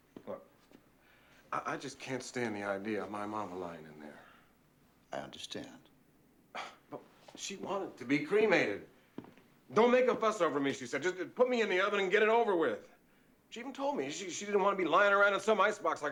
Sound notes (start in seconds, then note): 6.4 scoffs